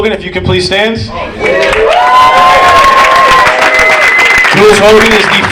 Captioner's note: audience applauding